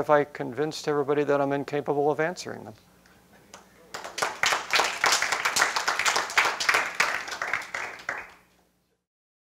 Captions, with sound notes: OR HAVE I CONVINCED EVERYBODY THAT I'M INCAPABLE OF ANSWERING THEM? - [APPLAUSE]